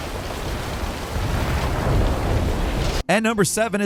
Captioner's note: explosion booms dully